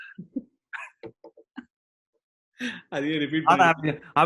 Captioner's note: laughs